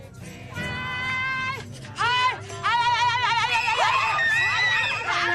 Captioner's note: screaming and shouting